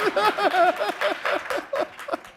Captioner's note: laughter